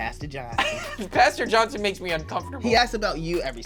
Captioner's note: laughing